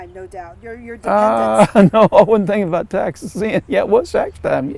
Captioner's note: laughs